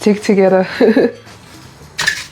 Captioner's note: laughs